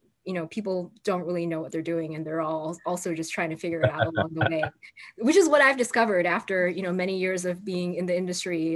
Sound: laughter

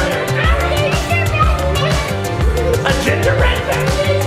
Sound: laugh

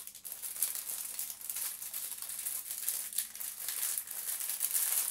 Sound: rustling

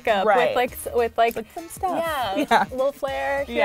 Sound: giggling

